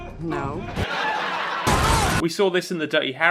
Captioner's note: laugh track